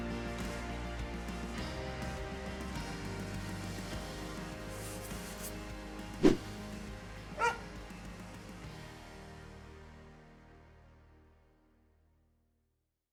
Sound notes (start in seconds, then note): 6.2 logo whooshing; 7.4 dog barks